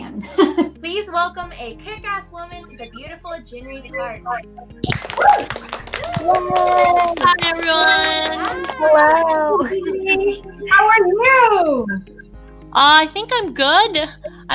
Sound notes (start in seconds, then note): 5.0 cheering